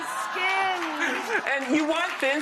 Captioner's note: clapping and cheering